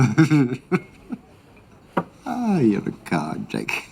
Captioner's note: laughs